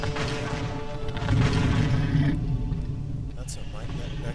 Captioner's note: dragon growls